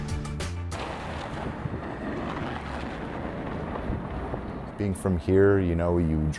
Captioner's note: car tires on icy road